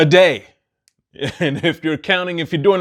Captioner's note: chuckles